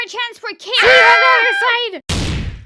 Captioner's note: teens exclaim their goodbyes